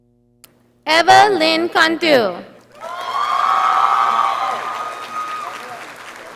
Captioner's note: audience applauding